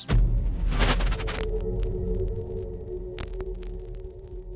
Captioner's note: sporadic static